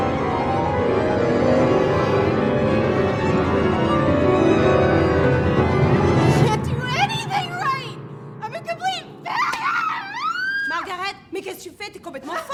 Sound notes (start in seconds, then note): 9.3 screams